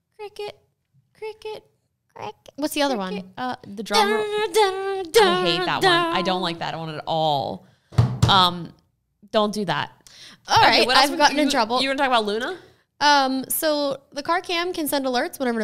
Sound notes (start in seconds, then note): 4.7 making dramatic sad sound; 7.9 banging